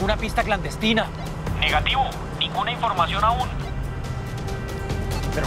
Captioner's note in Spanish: Voz en la radio